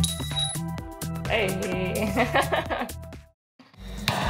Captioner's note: giggle